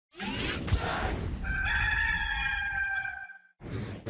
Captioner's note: rooster crowing